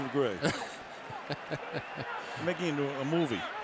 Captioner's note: laughs